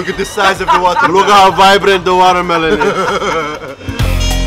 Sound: laughter

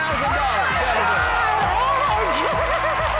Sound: cloud cheering

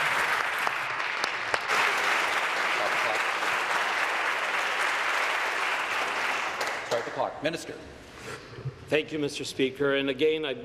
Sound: applause

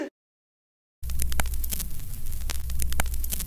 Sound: static from LP record

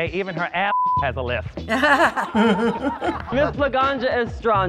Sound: laughing

